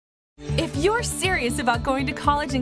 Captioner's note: voiceover